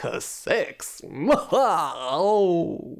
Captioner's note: manic guffaw